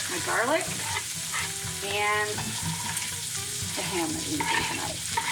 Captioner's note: sizzling pan drowns out speaker